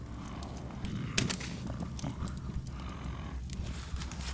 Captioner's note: wolf grumbling